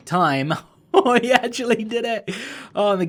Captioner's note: laughing